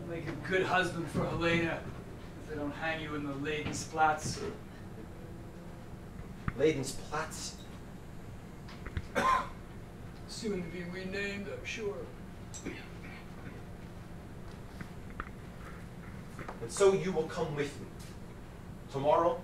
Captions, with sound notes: You'll make a good husband for Helena. If they don't hang you in the Leidensplatz. - Leidensplatz? - (coughs) Soon to be renamed I'm sure. - And so you will come with me tomorrow.